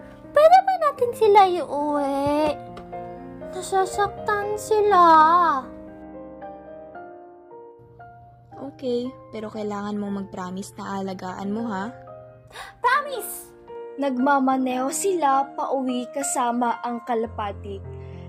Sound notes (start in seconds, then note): 12.5 gasp